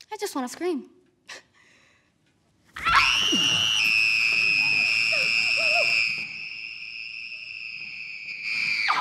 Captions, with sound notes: I just want to scream. (high-pitched scream) (high-pitched scream)